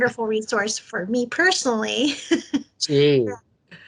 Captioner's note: laughs